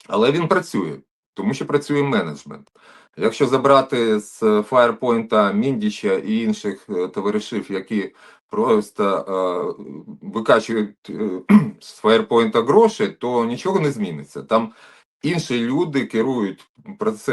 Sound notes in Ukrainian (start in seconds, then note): 11.3 прочищення горла